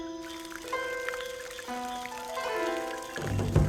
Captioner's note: water trickles